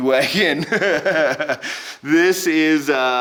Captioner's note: laughing